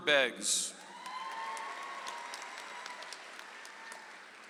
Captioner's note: audience applauds